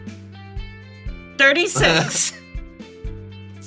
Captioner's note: laughs